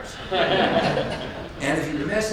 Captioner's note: audience laughs